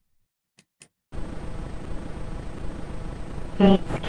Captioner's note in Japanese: マウスのクリック音：カチ; 粗いノイズ混じりの音声